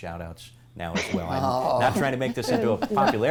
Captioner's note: laughter